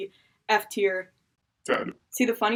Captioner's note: demonic voice